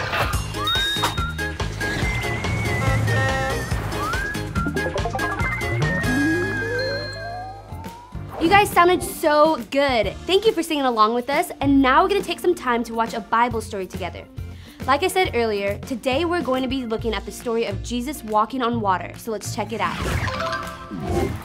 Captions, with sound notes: (whimsical music) (bus honking) - You guys sounded so good. Thank you for singing along with us. And now we're going to take some time to watch a Bible story together. Like I said earlier, today we're going to be looking at the story of Jesus walking on water. So let's check it out.